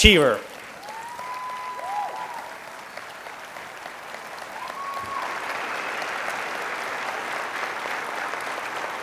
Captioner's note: applauding